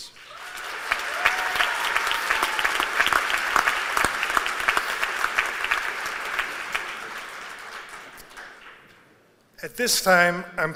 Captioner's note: applause